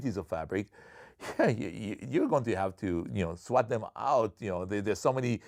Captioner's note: chuckles